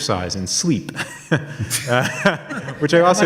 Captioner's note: audience laughs